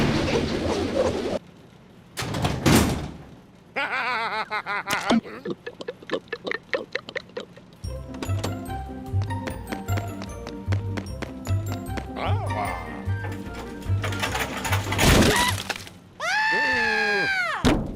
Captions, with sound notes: (laughing) (detergent glugging) AH! (cart rumbling) AAH! AAAAAH!